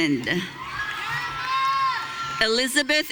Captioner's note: audience cheering